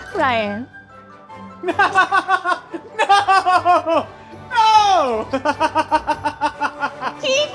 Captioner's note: laughing